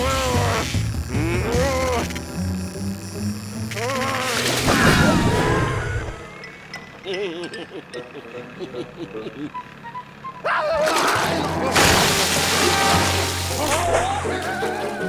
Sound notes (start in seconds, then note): 7.0 laughing nervously